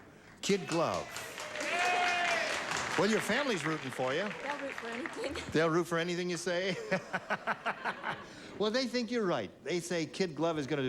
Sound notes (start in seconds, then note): 0.4 audience applauds